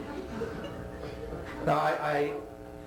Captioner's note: laughter